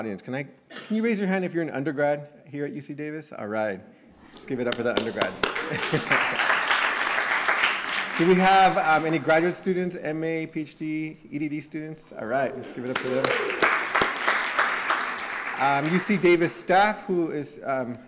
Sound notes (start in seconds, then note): 4.6 applause; 5.5 laughter; 12.8 applause